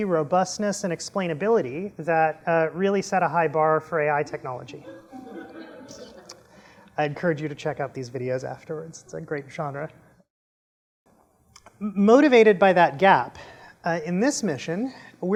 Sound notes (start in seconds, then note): 4.8 laughter